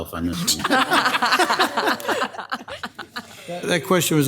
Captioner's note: all laughing